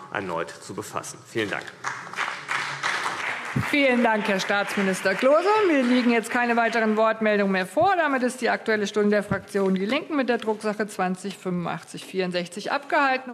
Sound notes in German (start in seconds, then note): 3.0 Beifall CDU und BÜNDNIS 90/DIE GRÜNEN